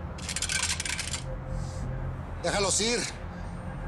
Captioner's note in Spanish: Ruido del arma